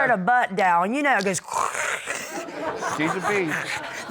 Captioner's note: imitating static